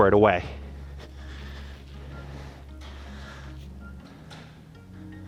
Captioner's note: deep breathing